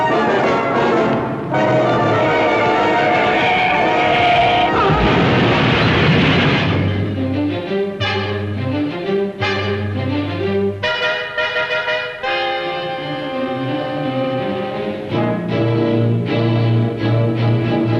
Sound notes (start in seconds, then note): 3.0 screaming; 3.8 crash; 7.2 urgent music